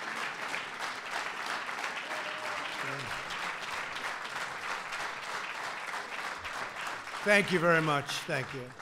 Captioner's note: applause